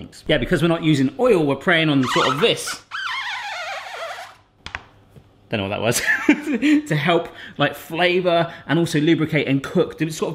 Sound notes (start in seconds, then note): 1.9 cutting board squeaks; 6.5 laughs